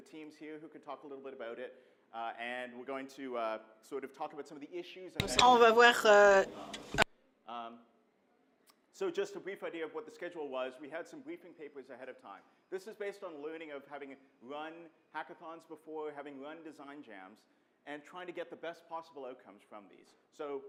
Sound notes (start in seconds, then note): 5.2 speaks in foreign language; 5.2 voiceover